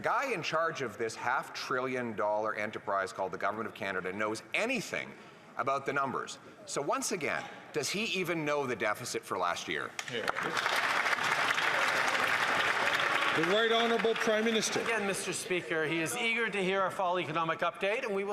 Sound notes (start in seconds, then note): 15.3 applause